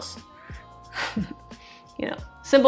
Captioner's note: chuckles